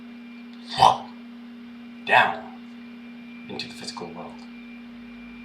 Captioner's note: slurp